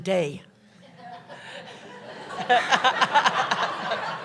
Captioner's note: laughter